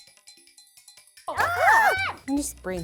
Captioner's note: upbeat music; shouts